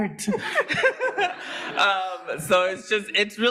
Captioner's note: participants laughing